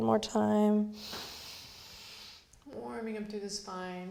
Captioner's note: inhales